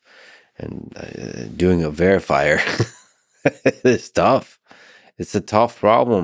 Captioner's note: laughing